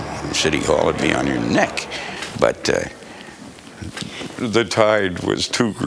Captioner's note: laughing